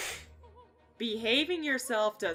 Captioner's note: deep inhale